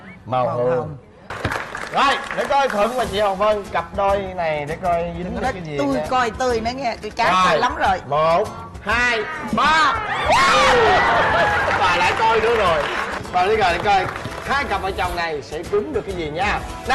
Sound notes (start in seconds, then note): 9.9 shouting and clapping hands